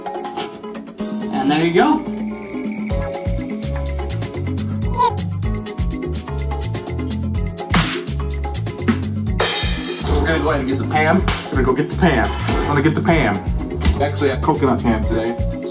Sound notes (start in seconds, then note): 7.7 FL_CLAP.mp3